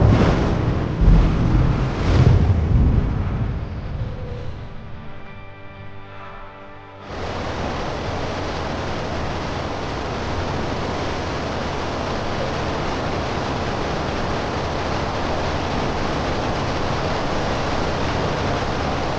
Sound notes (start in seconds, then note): 4.5 dramatic music; 5.3 water crashing